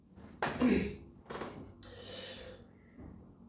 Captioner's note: clears throat